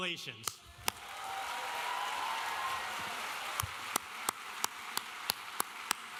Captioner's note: audience cheering and applauding